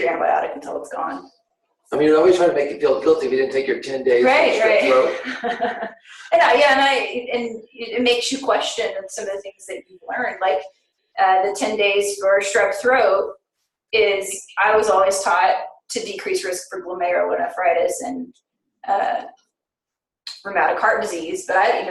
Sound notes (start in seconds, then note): 4.3 laughing